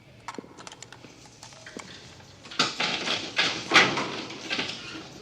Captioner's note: lock rattling